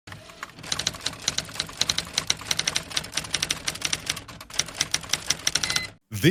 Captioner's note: typewriter noises